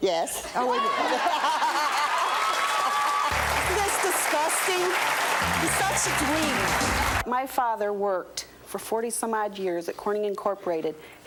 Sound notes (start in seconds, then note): 1.6 audience cheering; 1.6 applause